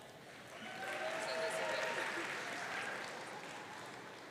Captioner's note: audience cheering